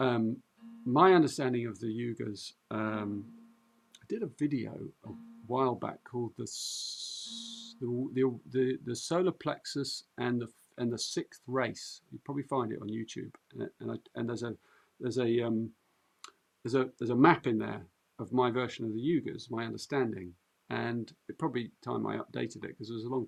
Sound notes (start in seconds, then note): none